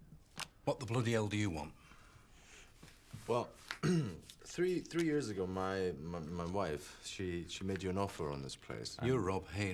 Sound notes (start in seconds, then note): 3.8 throat clears